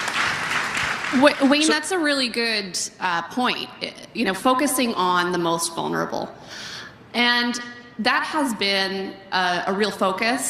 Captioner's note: applause